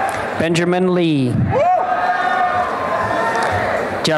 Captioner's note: applause and cheering